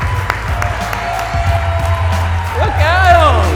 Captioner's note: audience cheering continues